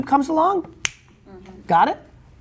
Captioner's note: finger snapping